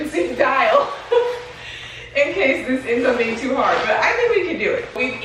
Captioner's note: laughs